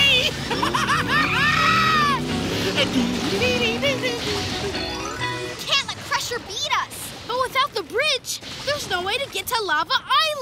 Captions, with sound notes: [laughing] [humming] We can't let Crusher beat us! But without the bridge, there's no way to get to Lava Island!